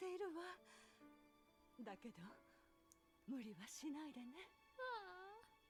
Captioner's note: in japanese